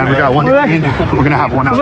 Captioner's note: exciteded c chatttter